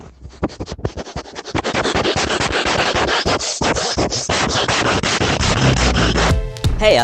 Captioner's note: loud ass sniffing.Mp3